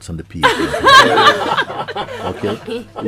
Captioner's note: laughter